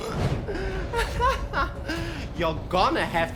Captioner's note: laughs evilly